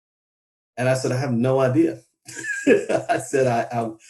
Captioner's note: laughs